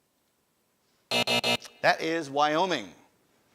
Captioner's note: alarm buzzes